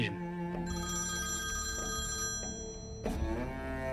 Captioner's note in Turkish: Telefon çalıyor